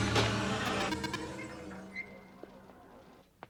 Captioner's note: beeps